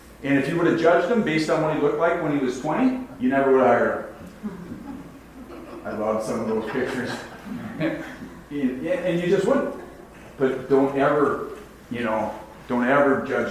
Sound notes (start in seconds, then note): 4.4 audience laughs; 8.9 laughs